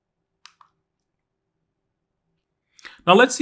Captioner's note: remote clicking